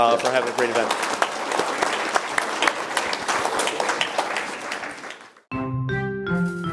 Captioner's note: applause